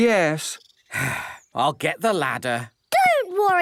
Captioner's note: sigh